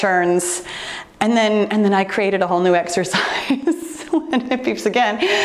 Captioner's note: laughing